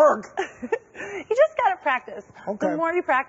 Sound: laughs

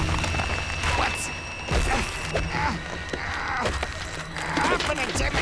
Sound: groaning

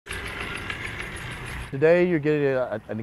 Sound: gears moving

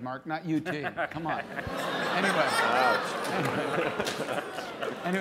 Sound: laughter

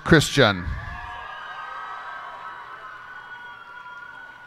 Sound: cheers and applause

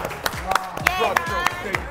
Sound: applause

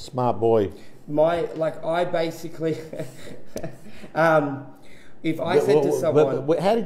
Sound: laughs

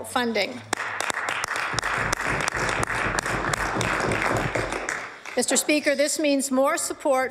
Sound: applause

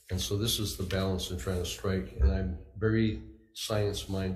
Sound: none

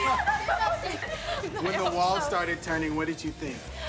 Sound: hysterical laughter continues

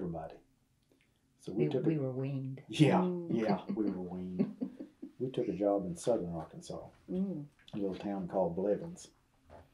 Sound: laughter

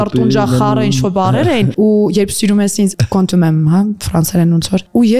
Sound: french words

